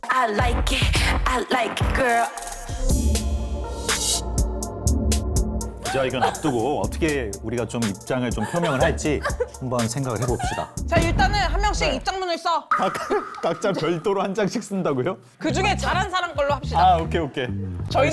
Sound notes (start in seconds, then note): 5.8 keeps crying; 10.9 speaking in an authoritative tone